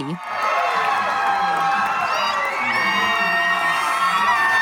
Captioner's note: crowd cheering